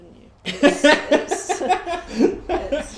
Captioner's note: laughs